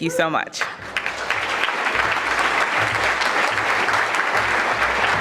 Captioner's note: audience clapping